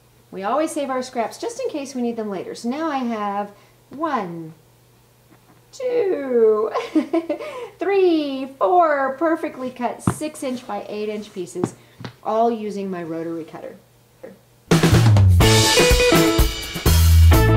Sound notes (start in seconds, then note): 6.4 laughs; 14.7 lively music